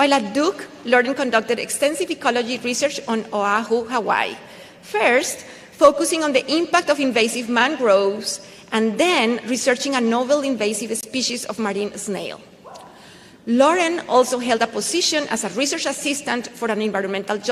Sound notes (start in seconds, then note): none